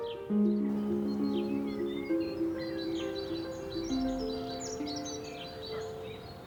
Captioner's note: birds chirping; gentle music